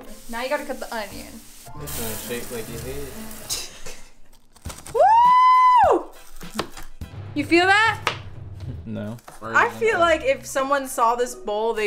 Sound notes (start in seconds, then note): 3.5 both laughing; 4.9 cheering